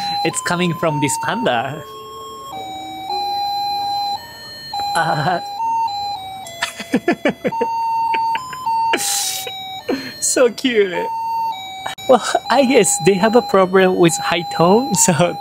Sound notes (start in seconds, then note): 6.6 laughs